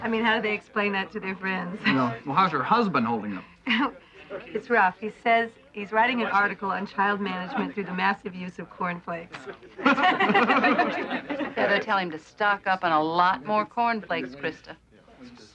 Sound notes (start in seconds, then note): 9.4 laughing